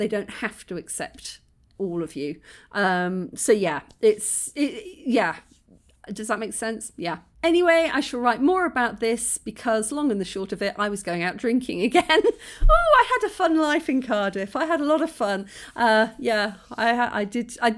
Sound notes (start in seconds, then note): 12.3 laughing